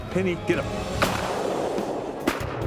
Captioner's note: gun shots